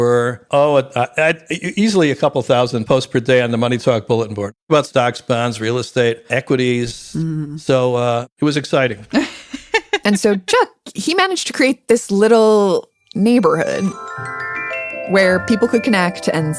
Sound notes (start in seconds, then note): 9.1 laughs